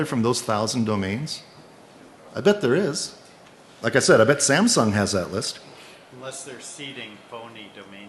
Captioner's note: off mic